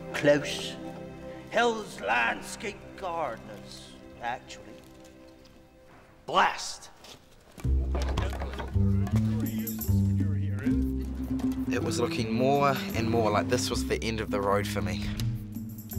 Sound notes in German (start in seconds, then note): 7.5 Männer reden; 7.6 düstere Musik